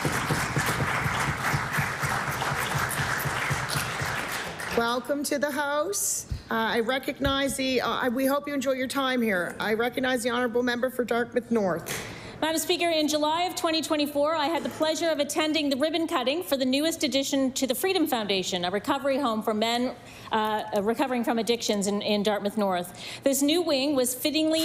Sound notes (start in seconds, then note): 4.8 applause